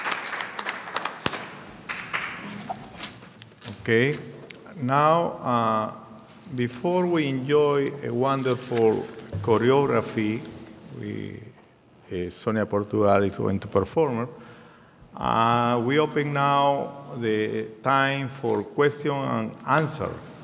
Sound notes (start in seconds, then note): 11.2 speaking in a foreign language